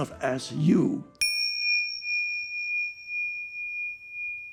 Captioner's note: bell chiming